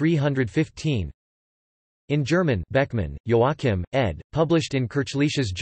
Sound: in German

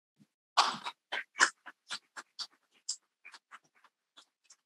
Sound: people clapping softly

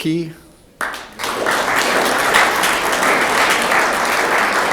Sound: room applauds

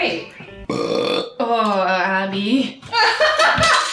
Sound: burps; laughs

